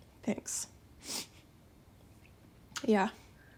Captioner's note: sniffs